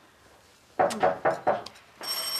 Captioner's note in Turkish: Kapı vurulma sesi; Kapı zili sesi